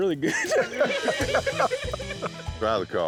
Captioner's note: laughter